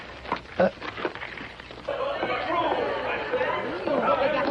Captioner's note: commotion